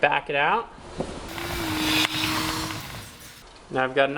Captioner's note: power tool whirring